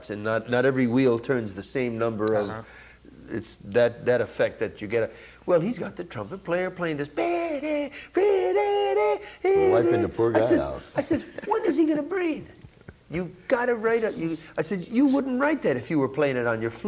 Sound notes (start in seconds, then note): 7.5 humms